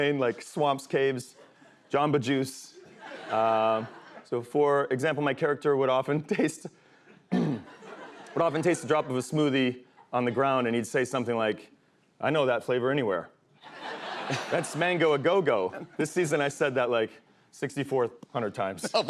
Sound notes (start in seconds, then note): 7.3 clears throat